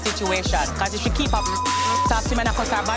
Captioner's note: beep; speaking in patois